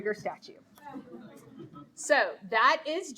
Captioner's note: audience laughing